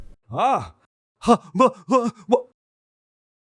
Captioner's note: loud pop; Salah muttering frantically